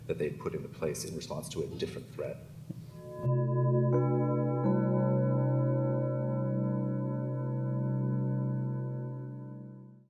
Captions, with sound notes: that they put into place in response to a different threat. (gong chiming)